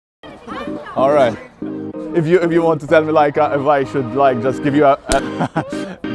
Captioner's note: clap